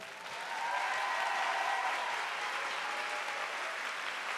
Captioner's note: audience applauding